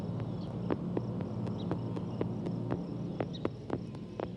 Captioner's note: birds chirping